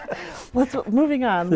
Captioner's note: laughing